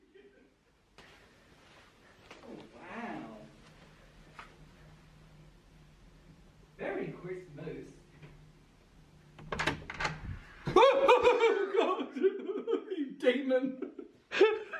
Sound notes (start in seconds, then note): 10.9 screams